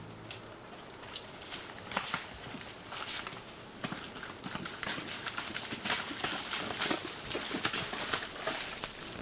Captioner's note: hiking Sounds